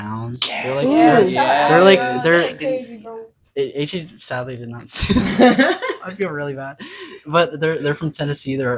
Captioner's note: laughing